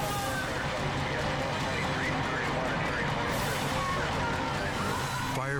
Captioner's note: operator chatters